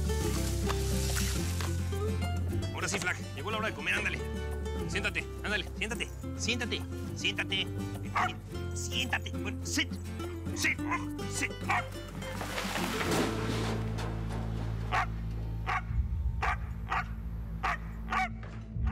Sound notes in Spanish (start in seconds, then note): 8.1 ladridos; 11.6 ladrido; 12.9 estruendo; 15.0 ladridos